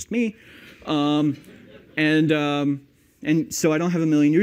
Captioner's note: laughter